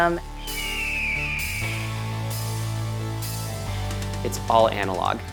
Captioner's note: eagle screeches